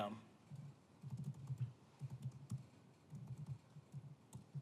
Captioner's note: typing sound